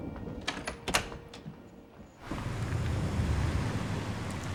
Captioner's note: door opens